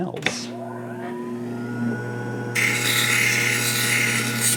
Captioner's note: machine grinding